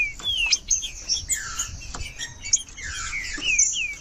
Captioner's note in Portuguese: trinca ferro cantando